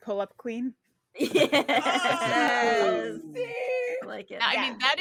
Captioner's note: laughs